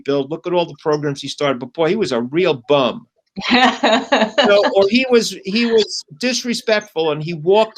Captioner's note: laughter